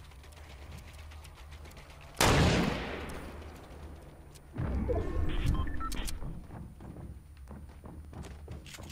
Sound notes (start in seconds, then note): 2.2 loud gunshot